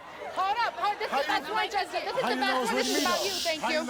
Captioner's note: all guests yelling